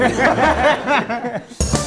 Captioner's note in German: Gelächter